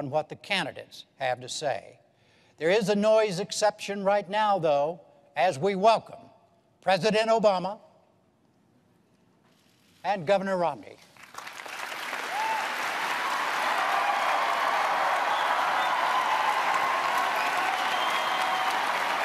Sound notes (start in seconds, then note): 11.3 cheers, applause